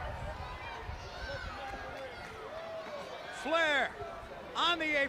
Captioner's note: crowd chatter